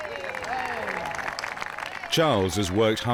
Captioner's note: crowd clapping